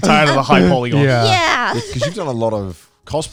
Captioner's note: laughs